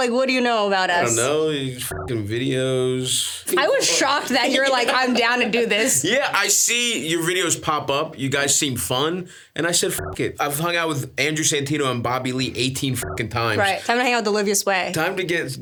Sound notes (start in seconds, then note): 9.9 beeps; 12.5 beeps